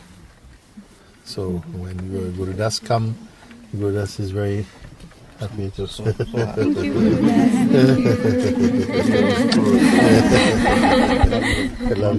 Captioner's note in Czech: smích